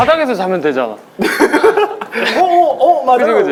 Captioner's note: laughing